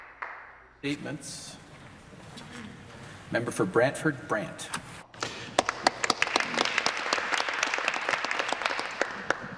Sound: applause

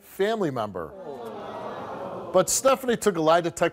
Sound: audience oohing

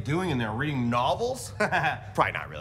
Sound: laughs

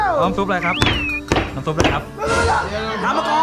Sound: slamming

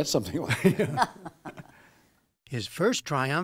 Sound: laughter

